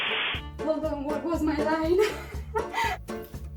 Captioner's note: laugh